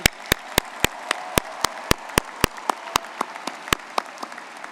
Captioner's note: all clapping